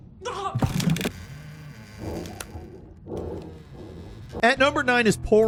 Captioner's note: door creaking; door clunking